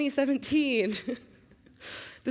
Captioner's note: chuckling